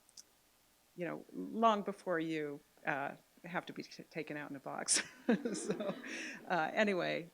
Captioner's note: laughter